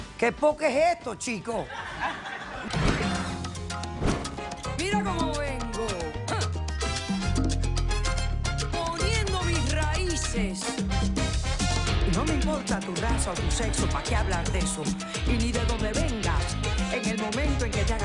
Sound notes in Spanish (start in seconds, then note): 1.6 Risas